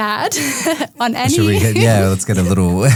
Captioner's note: group laughing